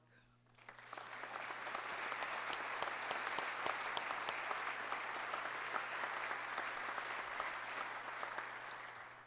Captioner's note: applause